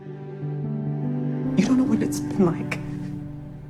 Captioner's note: voiceover